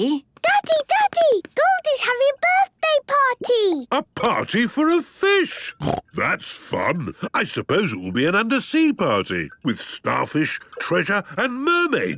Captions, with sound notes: - Daddy, Daddy, Goldie's having a birthday party! - A party for a fish! (snorting) That's fun. I suppose it will be an undersea party, with starfish, treasure and mermaids,